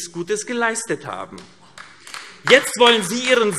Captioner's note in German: Vereinzelter Beifall AfD